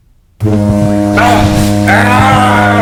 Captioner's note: device buzzing